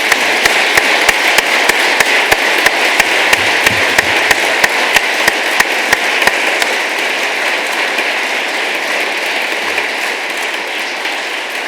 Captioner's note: applause